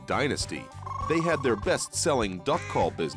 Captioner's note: duck call